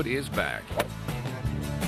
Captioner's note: golf swing